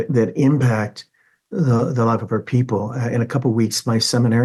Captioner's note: none